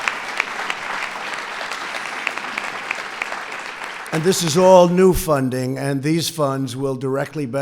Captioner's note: applause